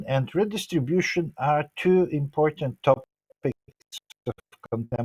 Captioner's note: 01:40:30 sound distortion in the recording